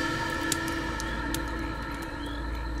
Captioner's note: fire crackles